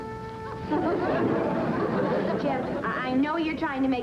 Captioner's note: laughter